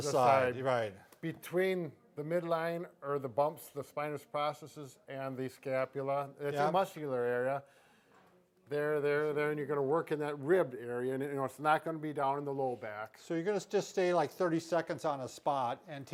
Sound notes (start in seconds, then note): none